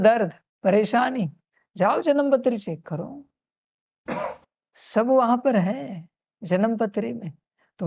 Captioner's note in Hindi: गला साफ़ करने की आवाज़